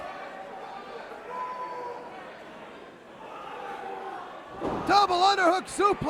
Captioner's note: crowd chatter